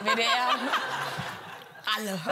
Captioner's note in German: Gelächter